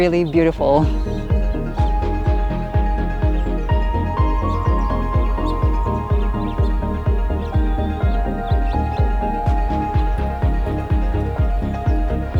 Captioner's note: birds Chirping